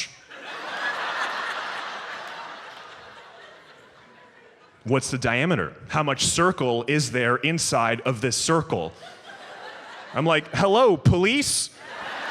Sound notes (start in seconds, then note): 0.2 audience laughs; 8.9 audience laughs